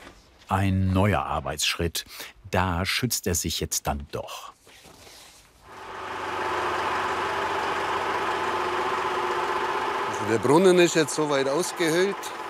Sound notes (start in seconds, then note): 5.6 machine noise